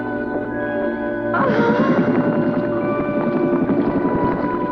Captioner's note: Liz moaning